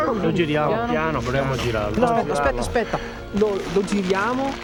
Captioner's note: speaking foreign language